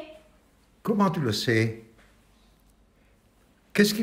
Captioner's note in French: silencio